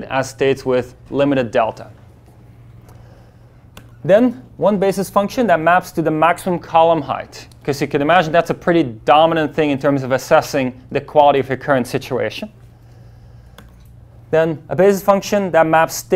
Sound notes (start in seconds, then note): none